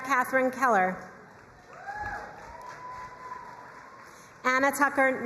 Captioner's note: crowd cheering and applauding